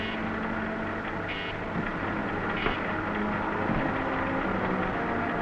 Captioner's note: mechanical beeping and whirring